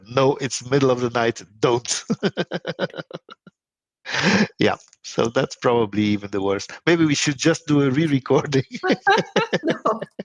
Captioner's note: laghing both